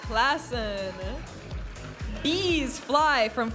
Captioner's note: audience applauding and cheering